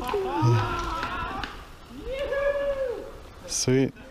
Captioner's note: laughing and cheering